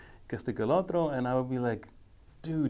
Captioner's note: speaking foreign language